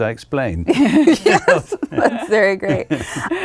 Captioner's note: laughing